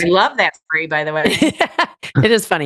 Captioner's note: laughs